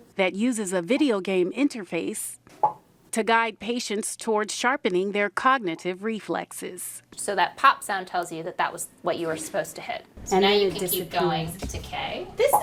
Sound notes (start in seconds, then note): 2.6 game popping